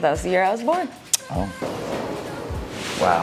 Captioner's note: clicking tongue